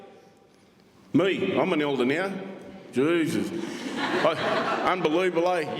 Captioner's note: crowd laughs